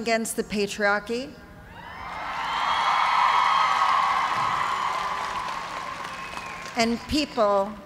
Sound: cheers and applause

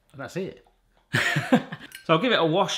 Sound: laughs

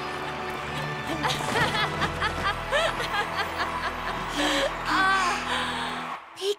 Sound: giggling

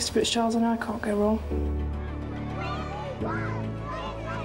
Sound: children yelling

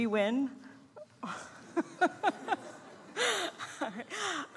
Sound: laughs

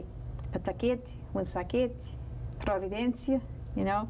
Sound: non-english speech

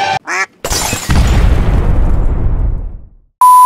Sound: duck quack; glass shattering; explosion sound

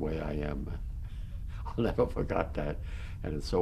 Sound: laughs

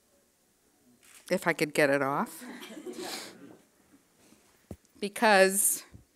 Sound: friends laughing

